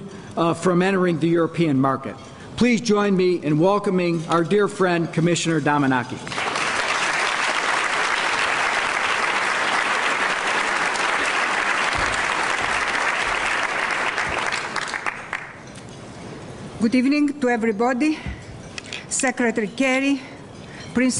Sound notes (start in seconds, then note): 7.4 applause